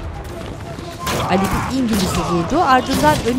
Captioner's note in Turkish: Haykırma sesi